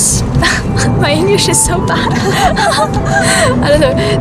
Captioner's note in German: lacht